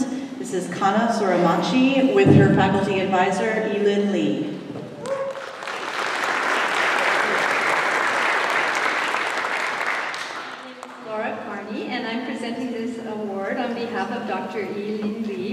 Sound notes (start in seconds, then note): 5.0 applause